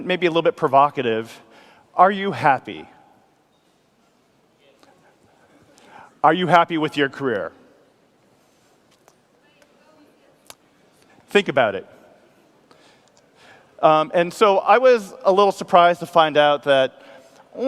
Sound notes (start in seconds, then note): 5.1 male Voice